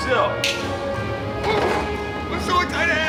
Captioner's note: snapping fingers